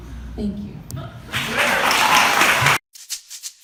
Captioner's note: audience laughter, applause